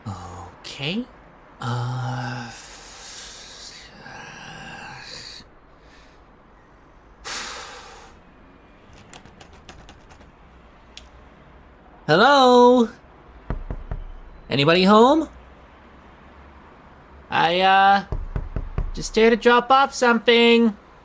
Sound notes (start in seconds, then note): 4.2 grumbles to self; 7.2 exhales; 9.0 door handle wobbles; 13.4 door knocking; 18.0 knocking continues